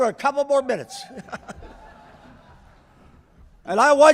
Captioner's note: laughter